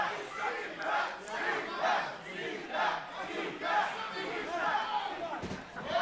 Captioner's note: fans chanting